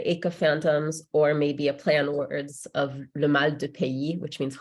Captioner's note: speaks in French